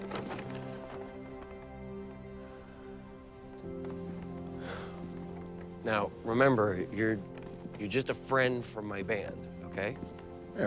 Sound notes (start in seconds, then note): 2.3 exhales sharply